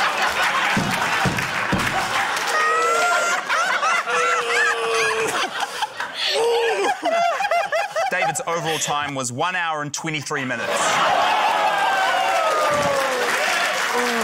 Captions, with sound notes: (APPLAUSE) - (GROANS IN FRUSTRATION) - David's overall time was one hour and 23 minutes. (LAUGHTER, APPLAUSE)